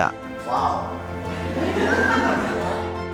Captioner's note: laughter